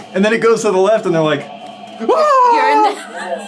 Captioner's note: shrieks